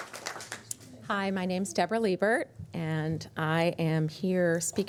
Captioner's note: applause